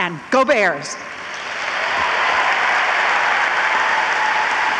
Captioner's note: audience applauds